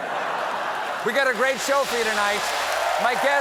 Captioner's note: laughter; applause